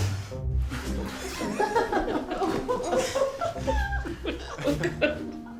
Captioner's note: everyone laughing